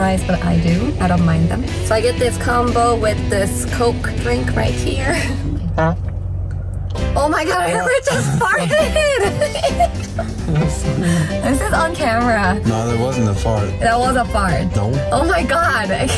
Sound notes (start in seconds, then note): 5.6 farting; 7.8 laughs